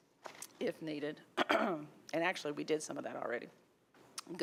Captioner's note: clears throat